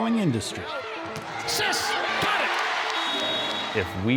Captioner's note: crowd cheering